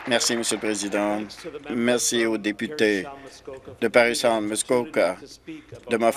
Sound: applause

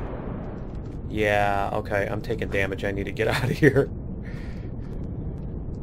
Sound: laughs

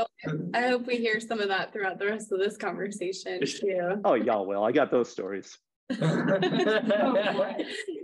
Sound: laughter

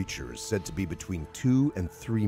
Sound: voiceover

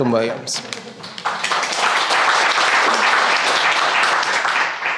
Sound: crowd applauding

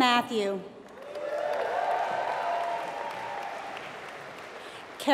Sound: applause

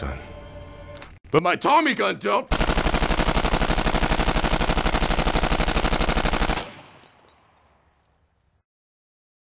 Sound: machine gun fire

